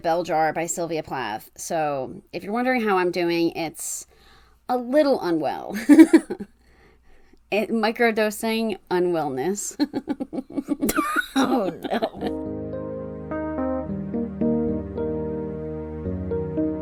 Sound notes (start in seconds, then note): 9.8 laughs; 14.7 transition music